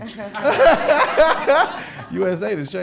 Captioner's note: audience laughing